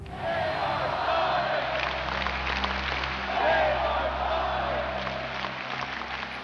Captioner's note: crowd